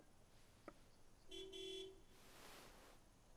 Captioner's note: horn honks outside